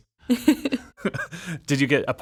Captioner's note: laughing